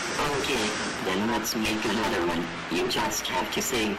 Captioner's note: voiceover